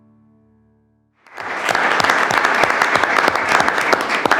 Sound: all clapping

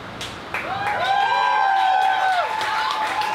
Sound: crowd applause

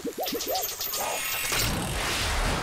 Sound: clattering

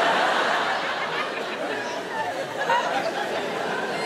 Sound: audience laughs

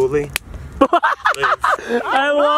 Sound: laughter

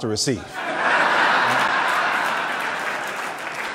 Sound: laughing

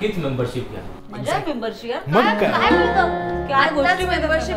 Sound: chaos in Background

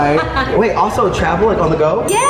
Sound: laughs

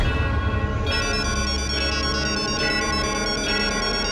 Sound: phone ringing

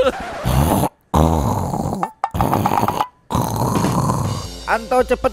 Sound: Anto is grunting

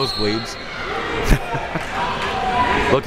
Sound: laughs

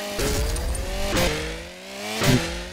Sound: goofy chainsaw

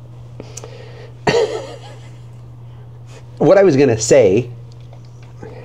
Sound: laughing

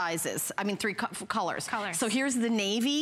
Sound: counting

